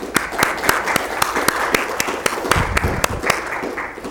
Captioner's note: applause